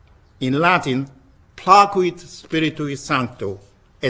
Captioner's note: speaking in latin